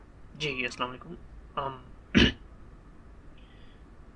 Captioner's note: coughs